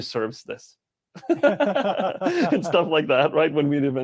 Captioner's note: laughing